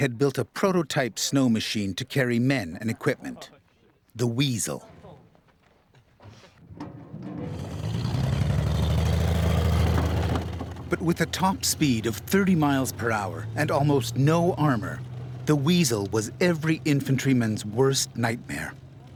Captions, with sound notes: had built a prototype snow machine to carry men and equipment, the Weasel. (motor running) But with a top speed of 30 miles per hour and almost no armor, the Weasel was every infantryman's worst nightmare.